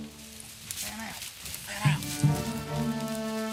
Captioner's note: whispering